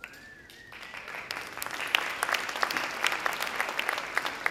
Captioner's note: audience applauds